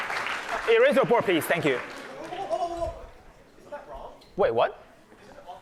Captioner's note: applause